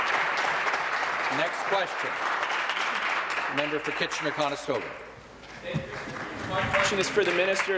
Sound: applause

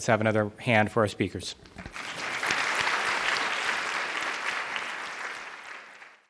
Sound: applause

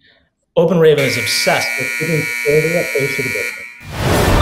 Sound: buzzer

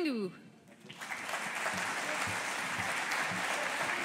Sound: audience applauding

